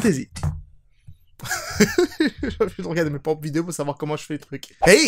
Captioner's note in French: rire